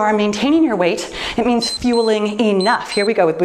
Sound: timer beeps

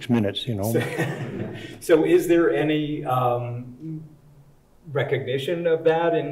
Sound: chuckling

